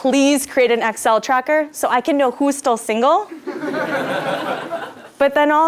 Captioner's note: laugh